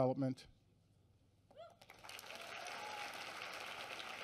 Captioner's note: applause